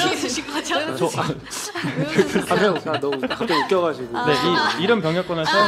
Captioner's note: laughter